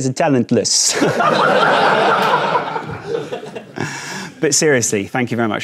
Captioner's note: audience laughing